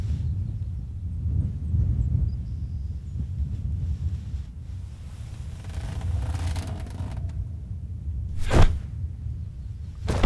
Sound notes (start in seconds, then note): 5.0 bed creaking; 10.0 body thudding